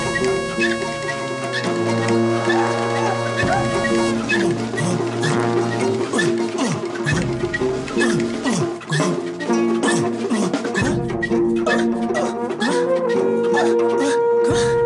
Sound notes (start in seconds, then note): 4.3 grunting